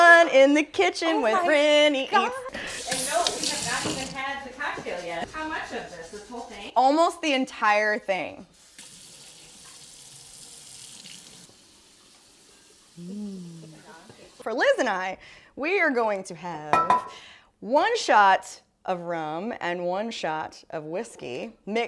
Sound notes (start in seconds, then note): 2.5 water rinsing in sink; 8.5 water rinsing in sink; 16.7 bottles clang on countertop